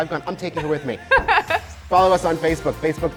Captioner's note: laughing